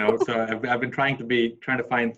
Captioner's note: laughs